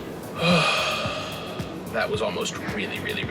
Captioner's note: exhales sharply